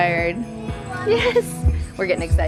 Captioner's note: bells jingling